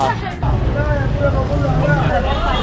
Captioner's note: grooms arguing